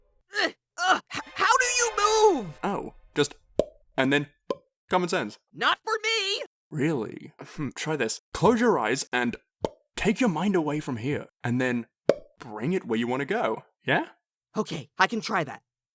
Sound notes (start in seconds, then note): 3.5 pop; 9.4 pop